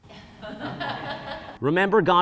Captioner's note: audience laughing